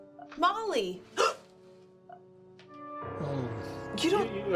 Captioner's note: Eleanor gasps; stammers